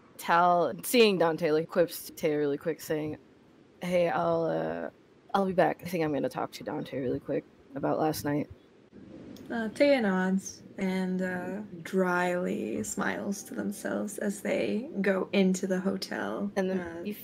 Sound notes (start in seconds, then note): none